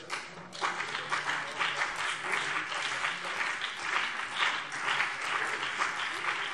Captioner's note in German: Beifall BÜNDNIS 90/DIE GRÜNEN und vereinzelt CDU